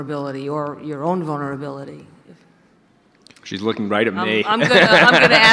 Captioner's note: audience laughter